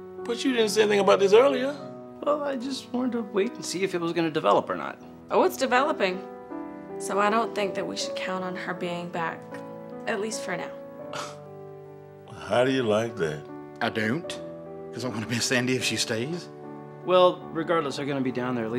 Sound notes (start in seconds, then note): 11.1 Gates scoffs